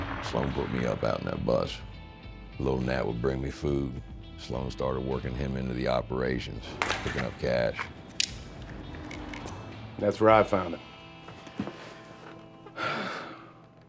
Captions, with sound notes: SLOAN PUT ME UP OUT IN THAT BUS. LIL' NAT WOULD BRING ME FOOD. SLOAN STARTED WORKING HIM INTO THE OPERATIONS PICKIN' UP CASH. [SWITCHBLADE CLICKS] THAT'S WHERE I FOUND HIM. [SIGHS]